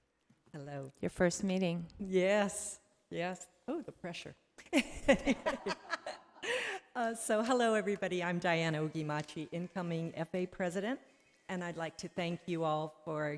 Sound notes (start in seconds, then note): 4.8 laughing